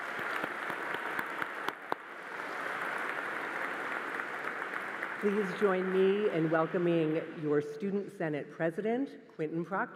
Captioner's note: applause